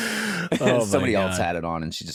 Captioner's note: laughter